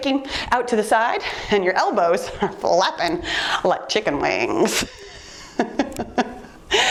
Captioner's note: laughs